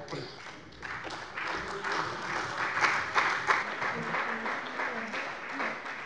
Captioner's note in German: Beifall bei der CDU und dem BÜNDNIS 90/DIE GRÜNEN